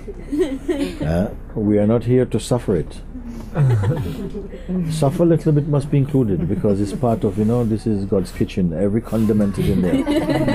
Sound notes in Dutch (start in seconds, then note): 3.5 zacht gelach